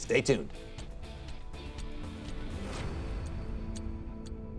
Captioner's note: clock ticking